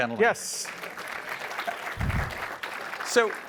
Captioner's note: applause